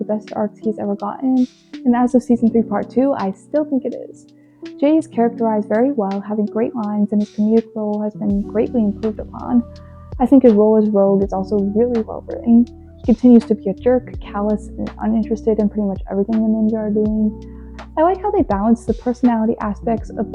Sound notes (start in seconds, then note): none